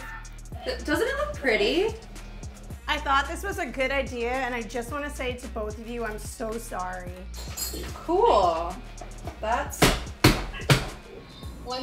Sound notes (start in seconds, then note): 7.3 utensils clatter; 9.8 plastic pounding